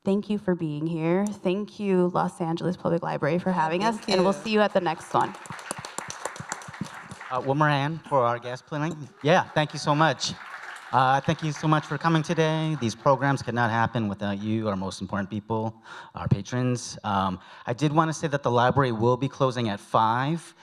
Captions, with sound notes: Thank you for being here. Thank you, Los Angeles Public Library, for having us. -Thank you. -We'll see you at the next one. [applause] -One more hand for our guest, please. Yes, thank you so much. Thank you so much for coming today. These programs could not happen without you, our most important people, our patrons. I did want to say that the library will be closing at 5,